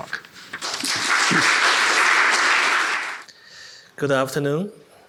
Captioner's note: attendees applauding